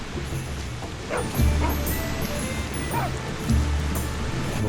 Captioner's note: dogs barking